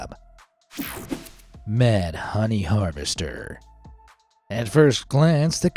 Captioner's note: screen whooshing